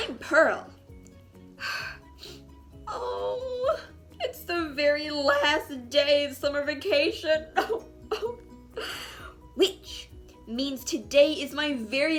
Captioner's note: crying